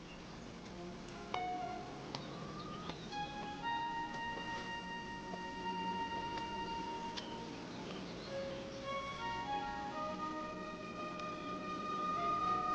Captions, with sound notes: (footsteps) - So much for needing our strength.